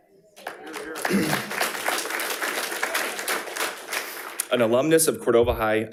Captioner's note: attendees applauding